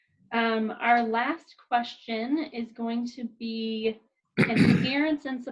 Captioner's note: man clears throat